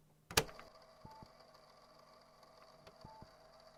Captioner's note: click; all audio slightly muffled, as if recorded through a layer of fabric; heart rate monitor